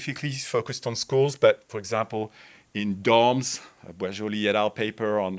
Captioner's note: speaks in French